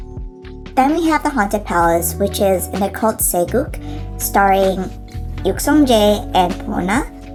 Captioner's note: mispronunciation